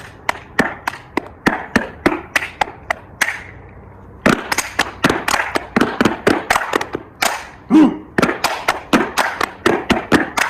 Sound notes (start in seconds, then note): 6.5 stomping and Clapping